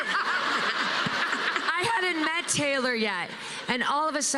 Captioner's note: laughter